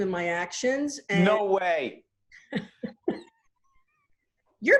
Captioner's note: both laughing